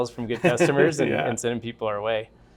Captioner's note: laughter